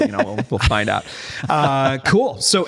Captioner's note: laughter